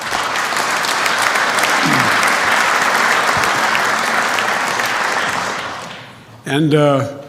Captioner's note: applause